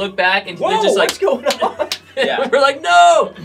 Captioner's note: fist slapping